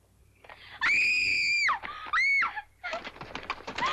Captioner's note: Nellie screams